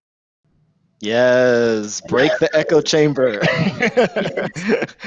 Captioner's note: laughs